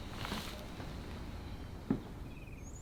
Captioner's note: birds chirping